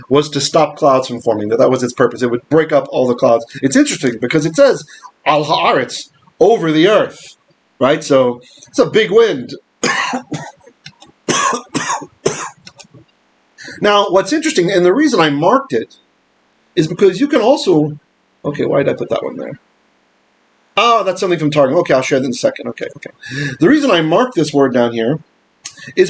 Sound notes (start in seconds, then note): 0.0 Hebrew; 5.4 Hebrew; 9.8 coughing